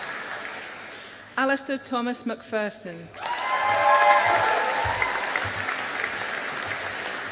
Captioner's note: audience applauding